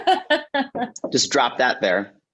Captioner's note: Jessie laughing